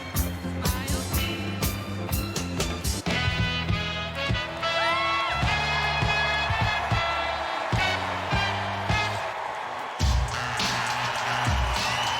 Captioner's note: cheers and applause